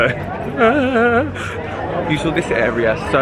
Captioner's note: wailing